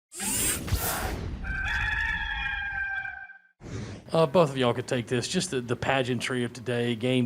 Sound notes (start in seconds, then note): 0.0 mechanical noise playing; 1.4 rooster crows